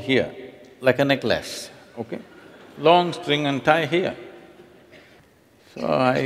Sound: laughs

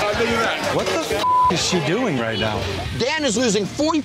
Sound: beep

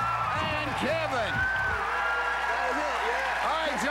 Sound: cheers and applause

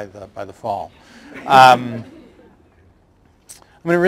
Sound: laughter

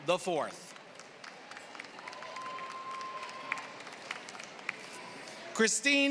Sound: applause

